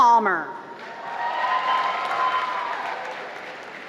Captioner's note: applause